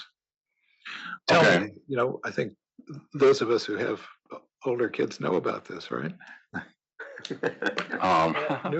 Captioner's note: laugh